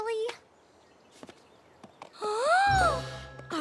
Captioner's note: gasps